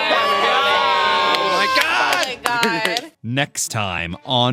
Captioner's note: overlapping reactions